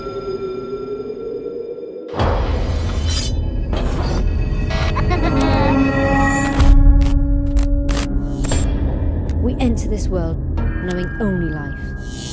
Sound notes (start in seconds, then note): 0.2 dramatic music; 4.9 laughter; 6.1 dramatic music